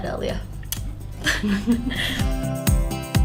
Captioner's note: laughing